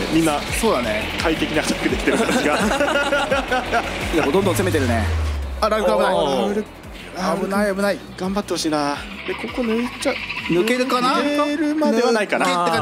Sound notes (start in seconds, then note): 1.8 laughs